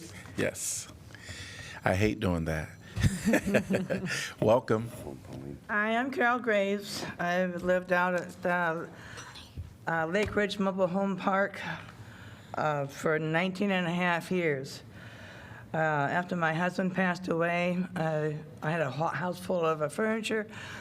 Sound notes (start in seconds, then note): 3.0 laughter